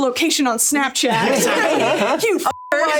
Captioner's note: all laughing